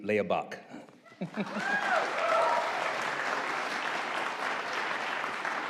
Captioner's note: audience applauding